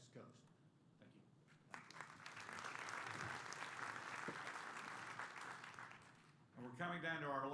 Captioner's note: applause